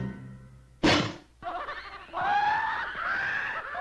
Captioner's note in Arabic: ضحكة مهووسة